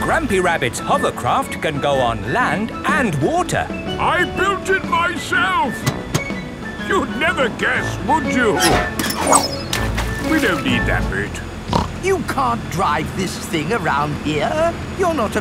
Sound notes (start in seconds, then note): 8.9 splashes; 11.7 snorts